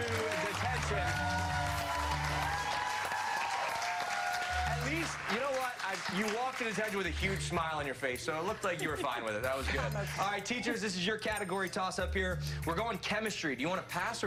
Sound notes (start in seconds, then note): 7.6 applause